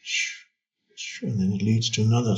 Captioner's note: windy whistling